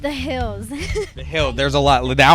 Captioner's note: laughing